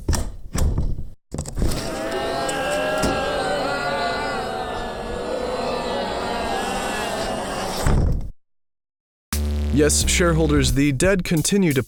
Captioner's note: the sound of the undead can be heard